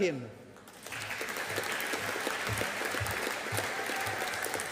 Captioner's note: audience applauding